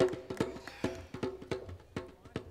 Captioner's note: applause